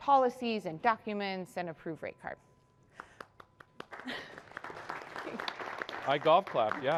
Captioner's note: applause